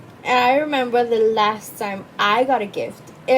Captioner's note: none